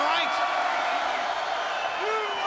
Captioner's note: crowd cheering